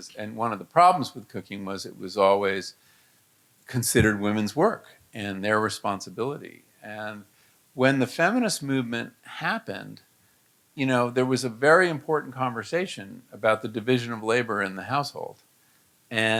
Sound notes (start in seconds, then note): none